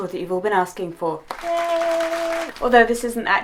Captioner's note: applause